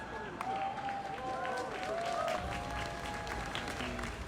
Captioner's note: applause